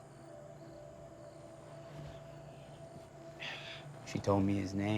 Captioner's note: tense music; crickets chirping